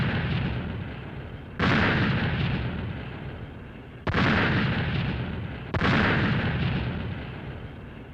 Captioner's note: explosions